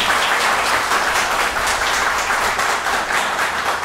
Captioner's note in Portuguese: aplausos